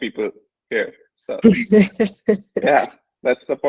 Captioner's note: laughs